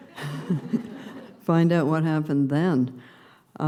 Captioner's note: laughter